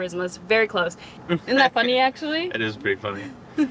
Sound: laughing

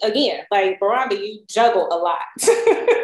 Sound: laughs

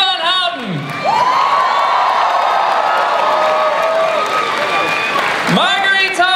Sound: cheering, applause

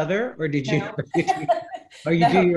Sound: laughs

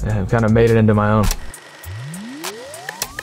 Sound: film reel rolling; upbeat jingle

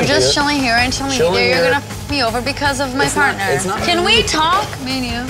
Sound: beep

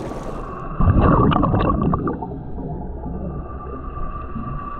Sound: water gurgling

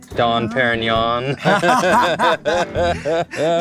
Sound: laughing

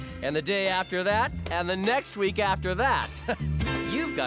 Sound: chuckles

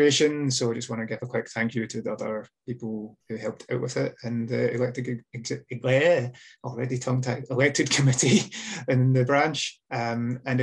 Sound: stumbles over words

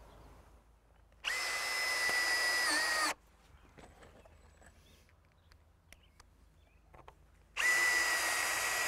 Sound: drill whirring, no additional audio

